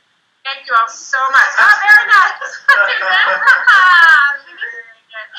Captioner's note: laughs